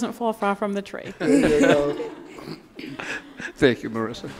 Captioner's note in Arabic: يضحك